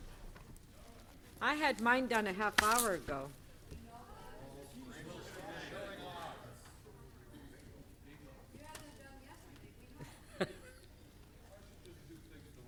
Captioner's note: off microphone